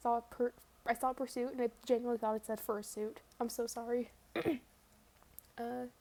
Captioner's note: ahem